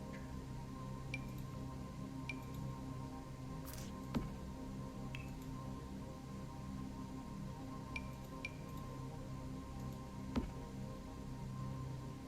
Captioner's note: Sims object placement sounds